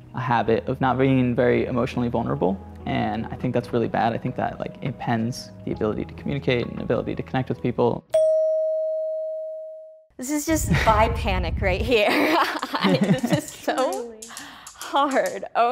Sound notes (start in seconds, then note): 8.1 bell dings